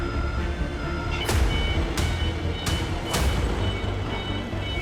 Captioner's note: dramatic music; vehicle beeping